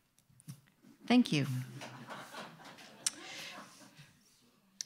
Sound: audience laughing

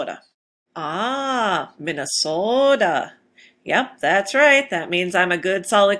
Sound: said in Minnesotan accent

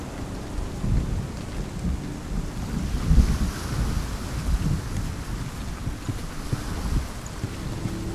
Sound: rain pattering, water sloshing; thunder booming

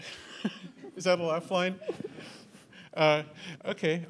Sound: chuckles

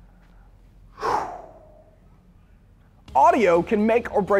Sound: loud exhale

